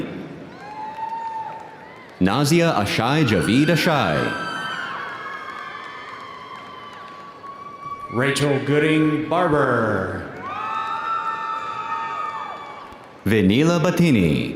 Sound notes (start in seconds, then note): 4.3 audience applauding; 4.3 audience cheering